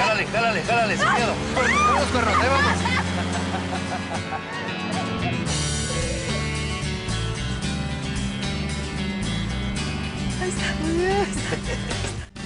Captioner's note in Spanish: Laughs